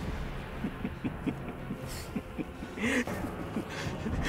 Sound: laughing

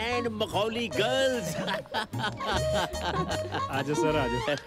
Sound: laughs

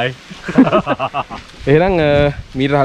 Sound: laughing

